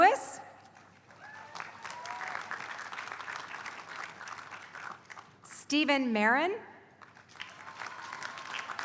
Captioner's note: applause; applause